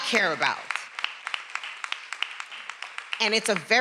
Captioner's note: attendees applauding